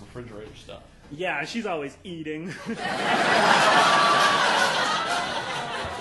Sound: audience laughing

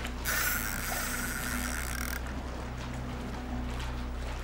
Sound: reel buzzing; suspenseful music

